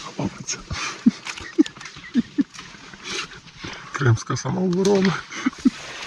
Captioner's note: laughter